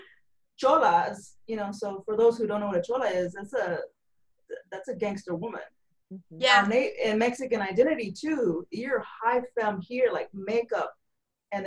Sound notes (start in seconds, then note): none